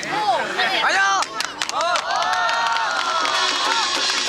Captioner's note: applauding